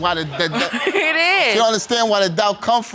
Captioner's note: laughs sarcastically